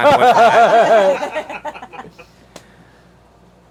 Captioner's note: everyone laughs